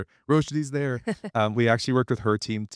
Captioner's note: chuckles